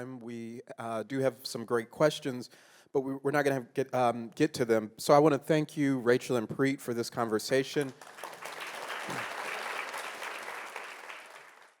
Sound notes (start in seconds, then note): 7.7 audience clapping